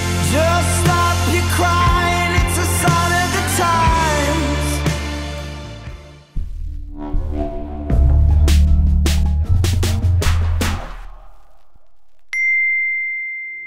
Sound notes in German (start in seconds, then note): 6.3 Dröhnen; 7.8 Rhythmische Musik; 12.4 Klingeln